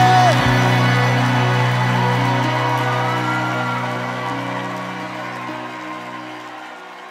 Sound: audience cheering

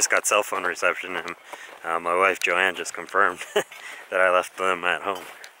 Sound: chuckles

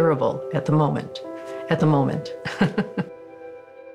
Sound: laughs

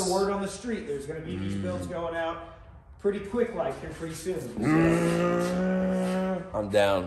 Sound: makes bad engine revving noises

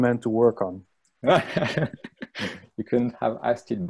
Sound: launghs

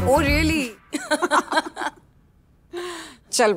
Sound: both laughing

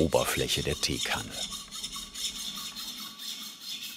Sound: grinding noises

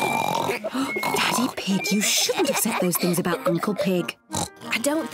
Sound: both snore exaggeratedly; whispering

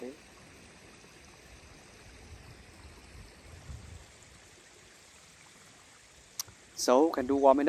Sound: continuous sound of stream running in the background

